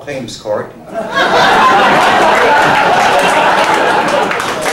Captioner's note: laughter